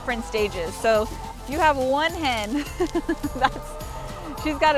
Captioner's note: chuckling